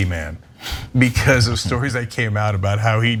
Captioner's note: laugh